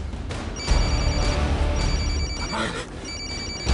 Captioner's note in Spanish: Suena el celular